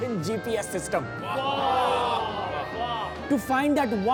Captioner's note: crowd cheering